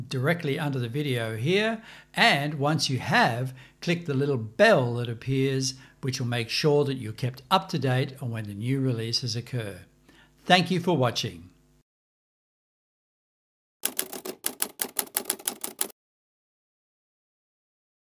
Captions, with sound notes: directly under the video here, and once you have, click the little bell that appears, which will make your that you're kept up-to-date on when the new releases occur, thank you for watching. (typing sounds)